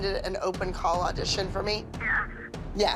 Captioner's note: on phone